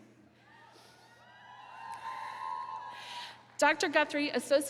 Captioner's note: attendees cheering